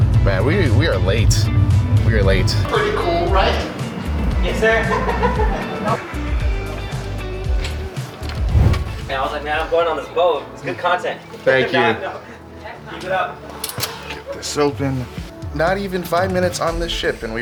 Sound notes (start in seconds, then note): 4.4 laugher